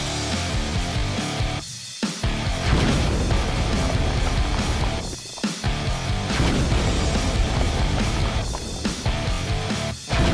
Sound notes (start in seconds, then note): 0.2 rock music; 2.6 rocks crumbling loudly; 4.8 rock music; 6.8 rocks crumbling loudly; 8.2 rock music